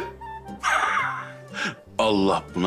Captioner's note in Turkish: Gülme sesi